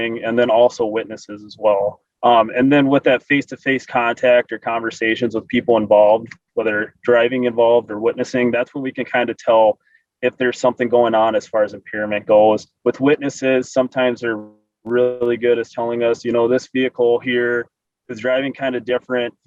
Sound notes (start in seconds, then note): none